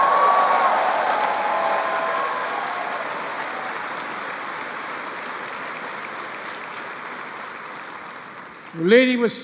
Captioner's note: applause